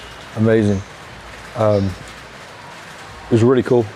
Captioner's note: rain falling